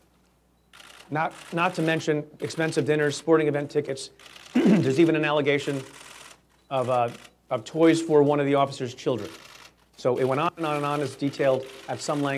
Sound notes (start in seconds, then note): 4.5 clears throat